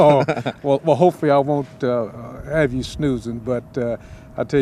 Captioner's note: laughs